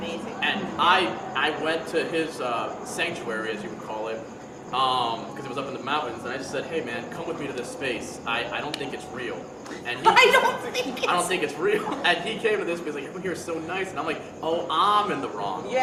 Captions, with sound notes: - Amazing. - And I went to his sanctuary, as you would call it, because it was up in the mountains. And I just said, "Hey man, come with me to this space. I don't think it's real." - (chuckles) I don't think it's. - I don't think it's real. And he came to this because he's like, "Everyone here is so nice." And I'm like, "Oh, I'm in the wrong."